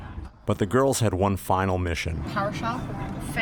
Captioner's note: voiceover